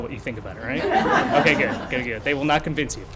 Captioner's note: laughter